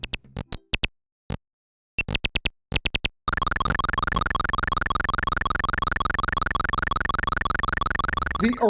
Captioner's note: Jetpac Game Audio